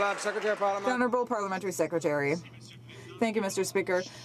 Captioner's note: some Applause